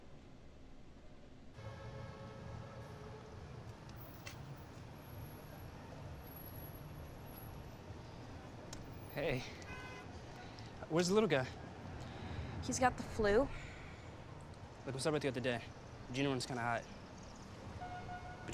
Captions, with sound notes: [car honks in distance] Hey. Where's the little guy? He's got the flu. Look, I'm sorry about the other day. Junior went kind of hot.